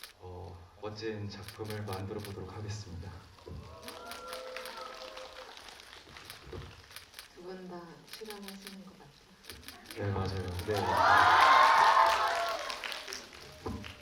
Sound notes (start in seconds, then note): 3.8 applause; 10.6 cheers